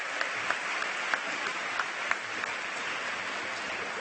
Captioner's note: cheers and applause